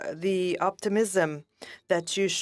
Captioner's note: speaking French